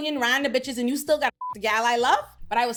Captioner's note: beep